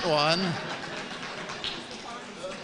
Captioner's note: laughs